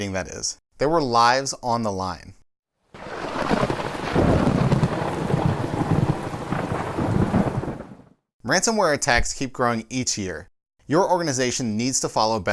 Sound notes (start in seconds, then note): 2.9 thunder